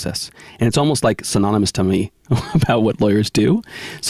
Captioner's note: chuckling